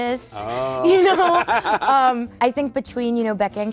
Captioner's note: laughs